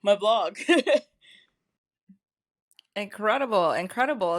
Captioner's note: loughs